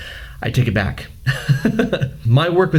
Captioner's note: laughing